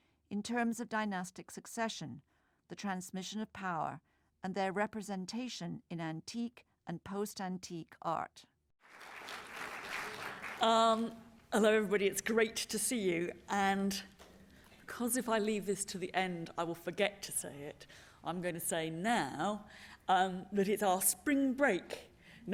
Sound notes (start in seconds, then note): 8.8 applause